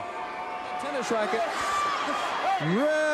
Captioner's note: crowd cheering